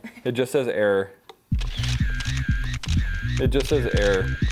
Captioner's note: edited camera shuttering sounds